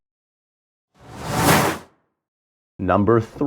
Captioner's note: logo flipping